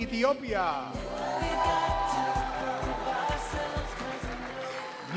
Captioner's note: audience cheers